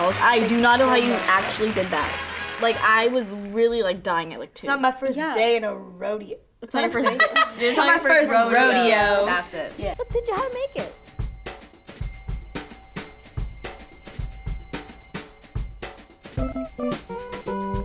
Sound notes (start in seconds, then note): 6.9 laughs; 16.3 upbeat music